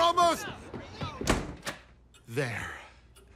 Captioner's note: door slams shut